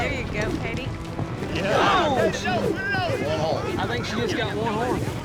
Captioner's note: everyone shouting